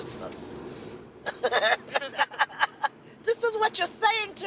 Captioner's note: both laugh